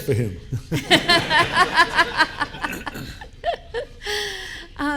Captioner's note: audience laughing